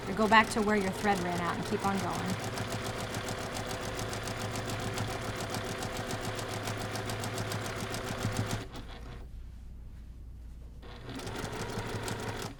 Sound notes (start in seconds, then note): 3.1 sewing machine churning